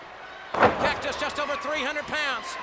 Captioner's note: Cactus thuds